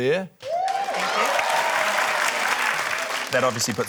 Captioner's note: cheering, applause